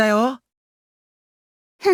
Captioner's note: silence